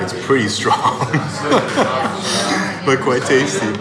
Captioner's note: laughs